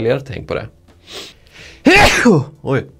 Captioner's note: sneezes very loudly